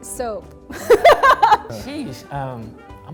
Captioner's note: laughing